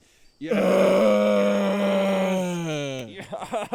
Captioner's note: grunting